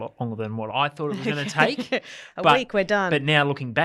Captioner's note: laughs